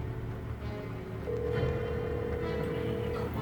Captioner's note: phone ringing